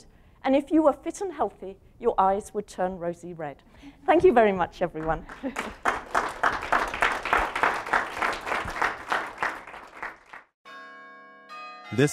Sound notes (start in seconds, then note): 8.2 applause; 10.6 bells ringing